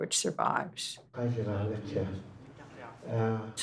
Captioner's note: elders praying